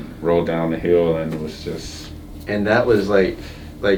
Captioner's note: none